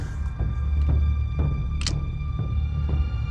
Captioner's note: pistol cocks